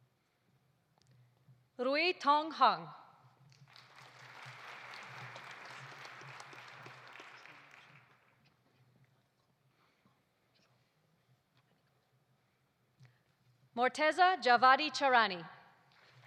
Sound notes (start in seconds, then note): 3.6 audience applauding